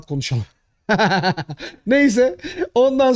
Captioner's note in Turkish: Gülüşmeler